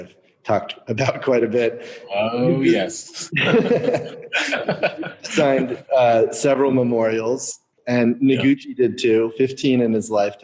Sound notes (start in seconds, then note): 4.4 laughing